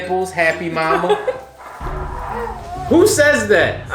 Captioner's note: laughing